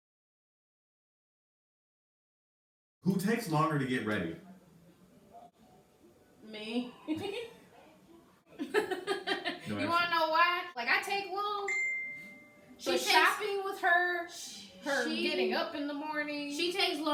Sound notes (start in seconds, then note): 8.6 chuckles; 8.6 laughs